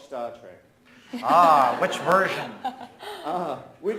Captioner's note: audience laughs